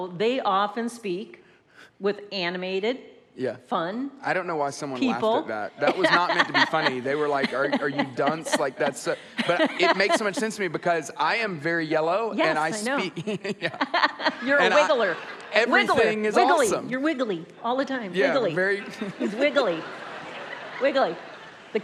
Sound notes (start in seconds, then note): 9.5 laughs; 12.5 laughs